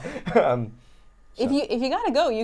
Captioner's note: laughs